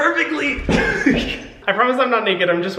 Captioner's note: Hyram laughing